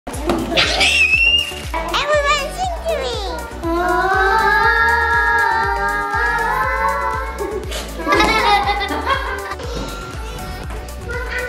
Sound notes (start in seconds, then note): 0.5 screams; 8.0 children laughing